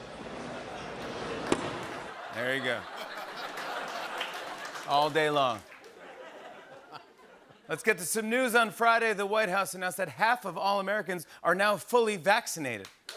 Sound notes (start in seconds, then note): 1.8 laughter; 6.1 light laughter